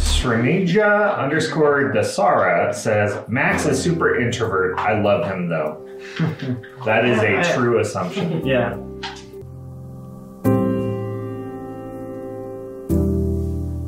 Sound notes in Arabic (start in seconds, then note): 6.0 ضحكات خافتة; 10.4 موسيقى بطيئة